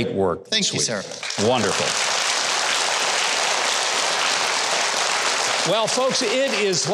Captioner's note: audience applauding